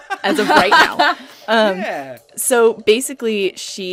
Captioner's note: laughter